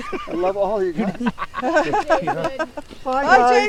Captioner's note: everyone chuckling